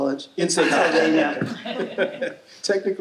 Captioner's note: audience laughing